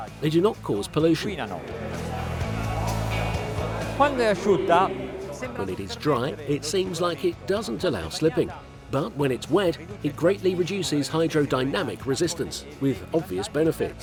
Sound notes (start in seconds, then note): 3.4 gentle music; 4.4 foreign language